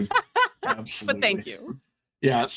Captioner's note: laughing